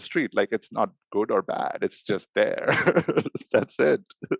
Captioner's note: laughs